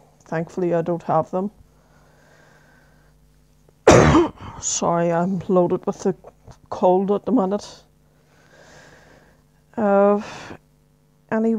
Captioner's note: cough